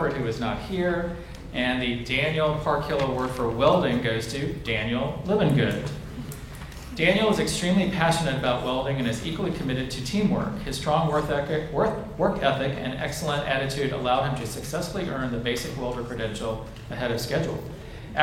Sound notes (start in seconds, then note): none